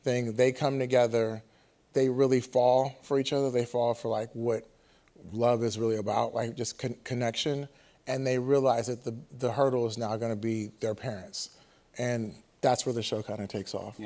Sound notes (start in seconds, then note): none